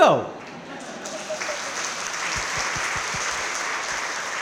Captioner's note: crowd clapping